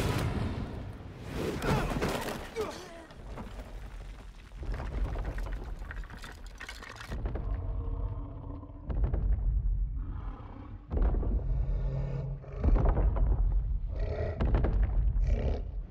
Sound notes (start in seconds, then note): 1.5 all grunting; 7.0 creature growling